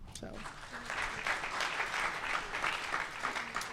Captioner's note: applause